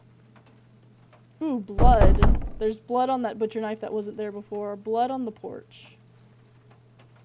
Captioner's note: three Loud Bangs